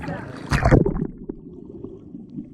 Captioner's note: under water sounds